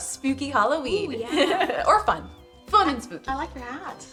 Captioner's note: laughing